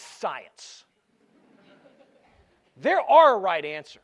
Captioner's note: laughter